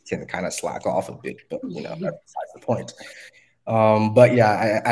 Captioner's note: laughing